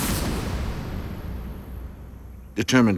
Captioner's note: insects chirping